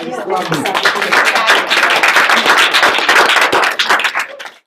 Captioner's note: group applauds